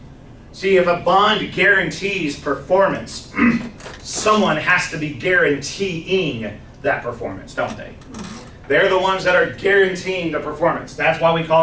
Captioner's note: clears throat